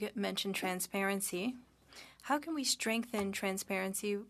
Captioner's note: speaking French